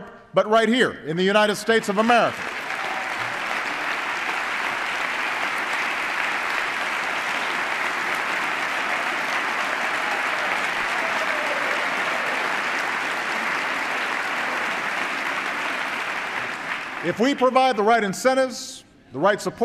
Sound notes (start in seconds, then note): 4.6 applause